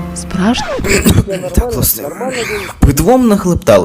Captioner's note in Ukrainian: походу поперхнувся